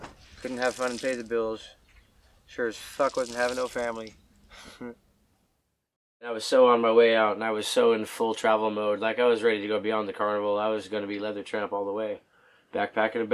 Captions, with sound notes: Couldn't have fun and pay the bills. Sure as fuck wasn't having no family. (laughing) I was so on my way out and I was so in full travel mode. Like, I was ready to beyond the carnival. I was gonna be leather tramp all the way, backpack and a bedroll.